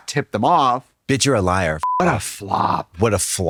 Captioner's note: beep